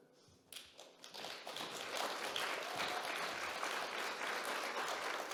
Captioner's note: audience clapping